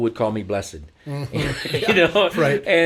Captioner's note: laughing